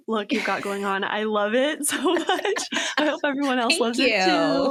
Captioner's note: laughs